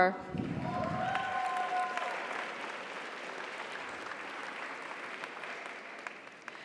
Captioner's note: audience cheers; audience applauds